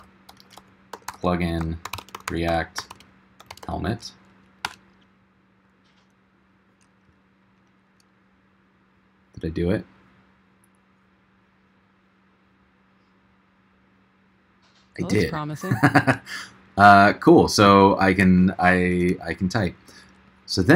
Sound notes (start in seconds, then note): 15.6 chuckles